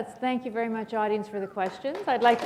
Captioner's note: applause